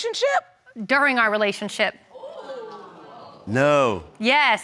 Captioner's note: audience gasps